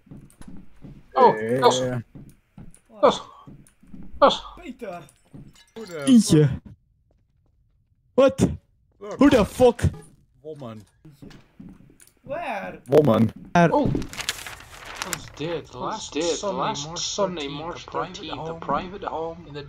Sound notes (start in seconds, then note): 13.8 newspaper sounds